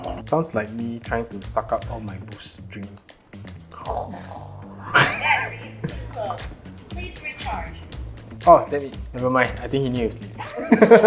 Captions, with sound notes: Sounds like me trying to suck up all my Boost drink. [Sucking noises] Battery is too low. Please recharge. Oh, damn it. Never mind, I think he need to sleep.